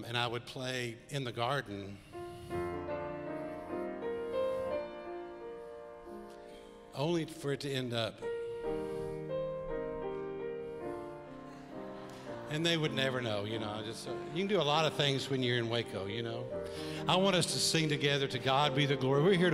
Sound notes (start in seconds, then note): 2.3 gentle piano music; 8.4 gentle piano music; 11.9 congregation chuckles